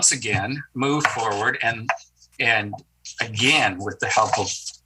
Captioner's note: object clacking